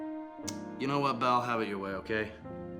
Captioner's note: none